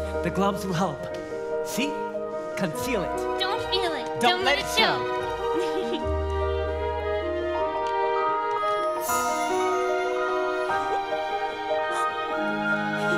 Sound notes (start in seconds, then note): 5.3 Elsa laughs; 6.7 gentle music